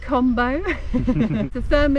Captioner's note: both laughing